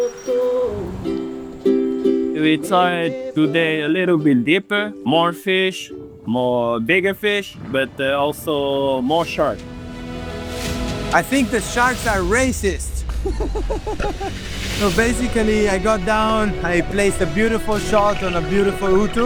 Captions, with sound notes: We tried today a little bit deeper – more fish, more bigger fish, but also more sharks. I think the sharks are racist. (Laugh) So basically I got down, I placed a beautiful shot on a beautiful Utu.